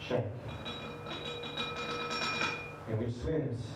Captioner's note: glass rattling